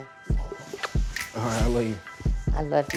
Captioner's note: kissing noises